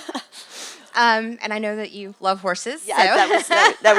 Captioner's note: laugh; laugh